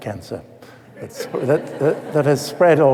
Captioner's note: laughter